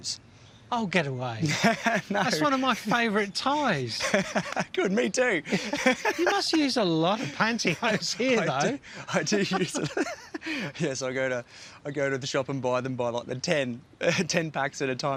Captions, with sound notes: Oh, get away. (LAUGHS) No! That's one of my favourite ties! (LAUGHS) Good. Me too! You must use a lot of pantyhose here. I do use... (LAUGHS) Yes, I go to... I go to the shop and buy them by, like, the...10 packs at a time